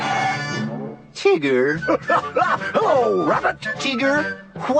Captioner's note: laughs